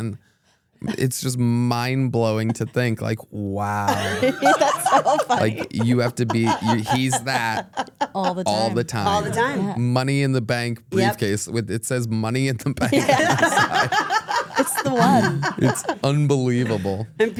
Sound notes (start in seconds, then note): 3.7 laugh; 12.8 group laughs